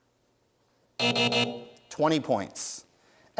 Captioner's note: buzzer sounds